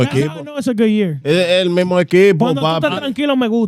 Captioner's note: speaking In Foreign Language